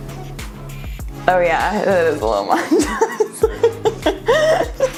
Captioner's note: laughs